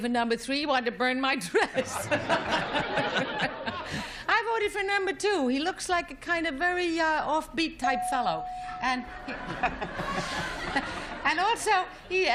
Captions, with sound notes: - Well, I'm not voting for number three. He wanted to burn my dress. [laughter] I voted for number two. He looks like a kind of very off-beat-type fellow.